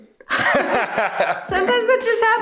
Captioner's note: laughs